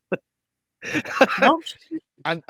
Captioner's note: laughs